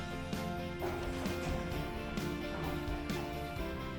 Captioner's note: sound of the lift doors closing